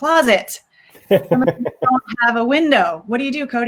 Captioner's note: laughs